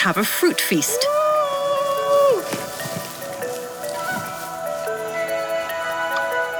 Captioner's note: light music; men yelling